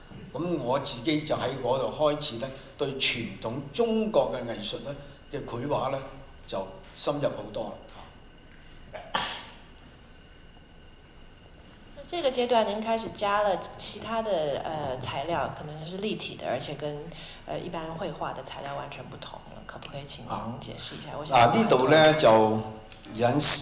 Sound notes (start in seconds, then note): 12.1 Mandarin; 22.5 Cantonese